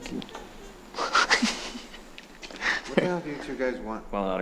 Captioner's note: Jack laughing